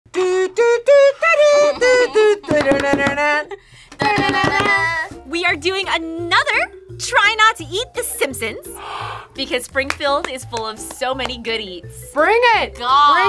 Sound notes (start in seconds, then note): 8.8 gasps